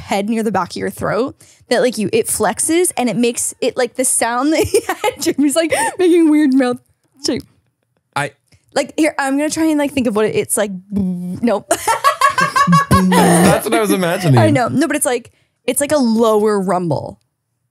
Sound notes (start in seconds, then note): 11.8 humming